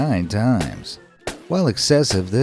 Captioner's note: guns blasting